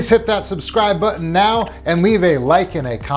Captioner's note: mouse clicking button